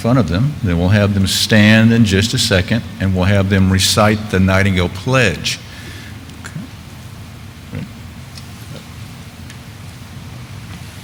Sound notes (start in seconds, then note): none